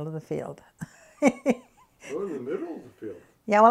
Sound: laughs

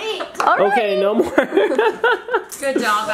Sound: laughing

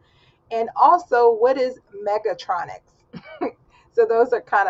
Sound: laughs

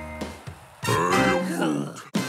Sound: beeping; sighs

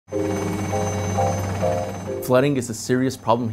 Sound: aircraft motor buzzing; light music

